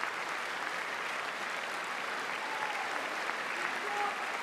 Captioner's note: applause